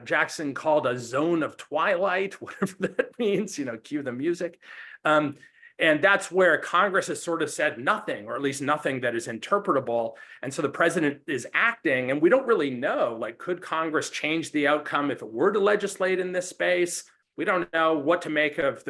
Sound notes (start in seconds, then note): 2.5 laughs